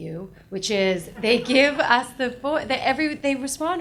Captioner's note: audience laughs